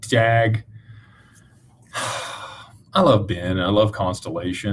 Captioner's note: sighs